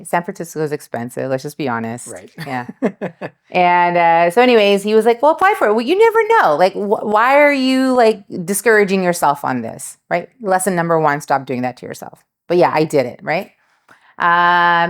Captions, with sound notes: San Francisco is expensive, let's just be honest. (laughs) So anyways, he was like, "Well, apply for it." Well, you never know. Why are you discouraging yourself on this? Lesson number one, stop doing that to yourself. But yeah, I did it.